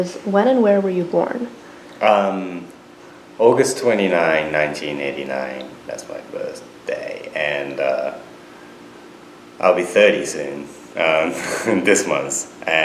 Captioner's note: laughs